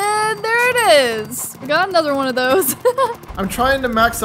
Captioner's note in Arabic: يضحك